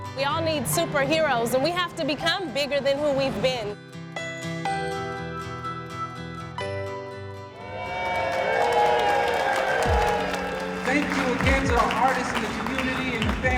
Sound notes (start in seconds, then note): 7.5 cheering